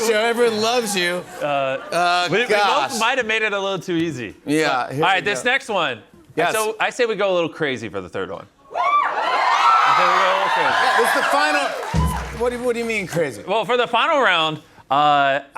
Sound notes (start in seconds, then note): 8.7 cheers and applause